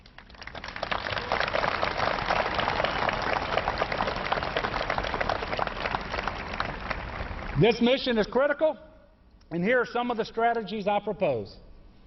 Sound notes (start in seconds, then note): 7.2 applause